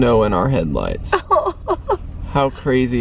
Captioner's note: chuckling